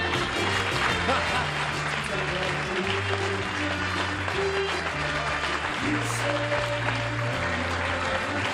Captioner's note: applause